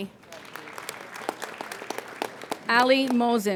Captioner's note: applauding